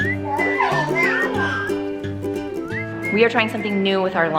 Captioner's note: babbles